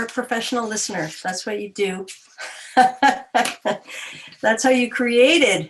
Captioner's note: chuckles